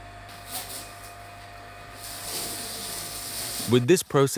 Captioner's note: machine whirring